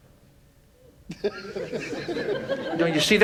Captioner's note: audience laughs